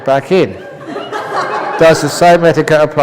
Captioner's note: laughter